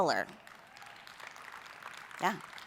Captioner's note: applause